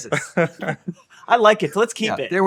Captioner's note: laughing